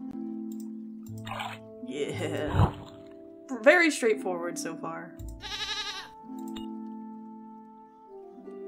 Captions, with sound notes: Yeah. Very straight-forward so far. [Goat Bleats]